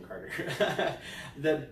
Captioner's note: laughing